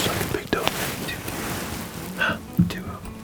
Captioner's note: whispering